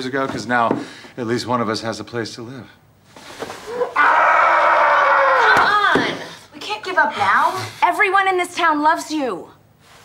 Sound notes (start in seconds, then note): 3.8 Travis screaming